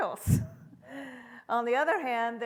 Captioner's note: laughs softly